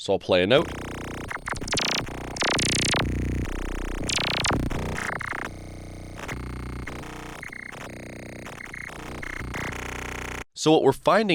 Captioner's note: electronic sound